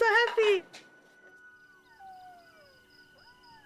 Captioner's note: Tripod whimpering